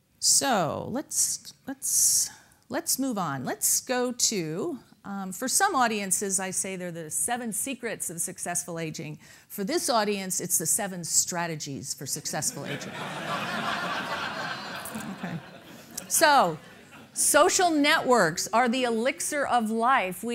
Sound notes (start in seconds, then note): 15.1 laughing